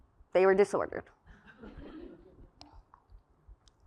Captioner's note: laugh